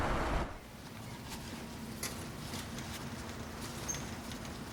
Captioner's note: birds chirping